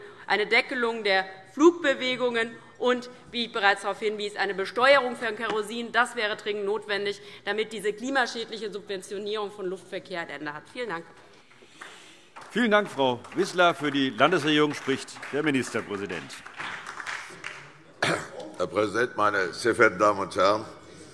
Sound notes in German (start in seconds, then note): 11.4 Beifall DIE LINKE und SPD